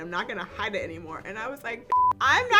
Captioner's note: beep